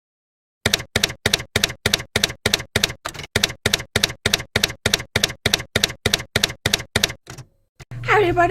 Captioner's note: typewriter keys clacking